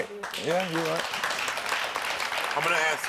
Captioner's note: audience applaud